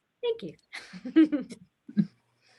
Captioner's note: laughs